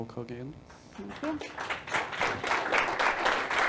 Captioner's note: applauding